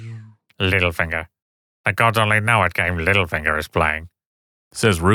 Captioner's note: Rugen voice